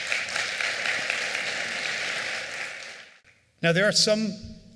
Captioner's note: applause